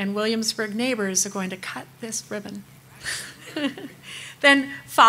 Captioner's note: laughs